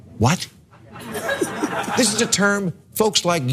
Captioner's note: laugh